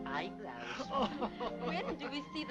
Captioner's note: laughing